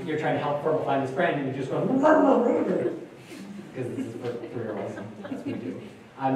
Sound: gags

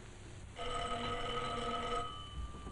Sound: doorbell rings

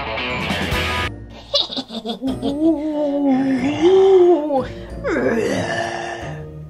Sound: laughing; ghosts moaning

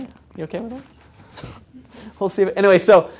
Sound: laugh

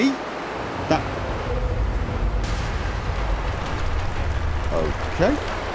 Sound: distant roar and more crashing rock

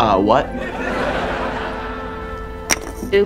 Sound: laughing

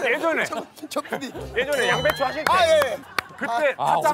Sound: laughing so hard

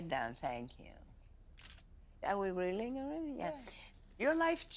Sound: clicks

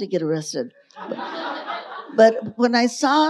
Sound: audience laughing

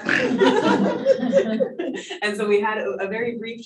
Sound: panelists laughing

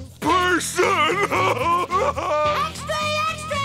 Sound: crying

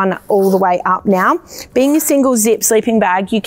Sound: zipper sliding

